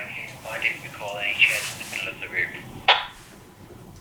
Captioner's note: walkie talkie